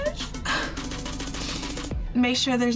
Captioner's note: sighs